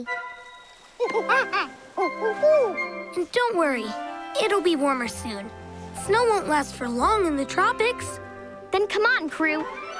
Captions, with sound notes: [monkey sounds] And don't worry, it will be warmer soon. Snow won't last for long in the tropics. Then come on, crew.